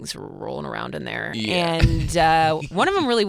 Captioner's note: laughing